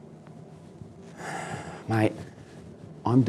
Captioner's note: sighs